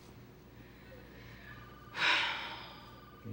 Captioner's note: sighs